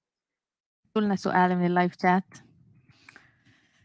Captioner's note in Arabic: لغة أجنبية